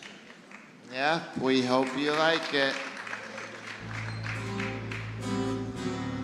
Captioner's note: applause